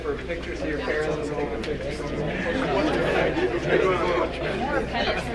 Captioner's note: crowd murmuring